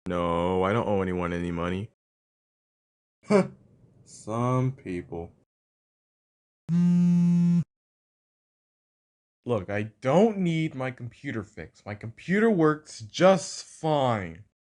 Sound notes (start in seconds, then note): 3.3 laughs; 6.7 phone buzzing